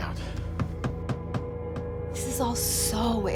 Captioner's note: tapping